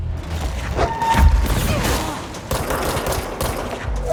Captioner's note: combat noises